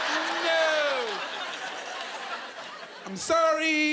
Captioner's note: laughing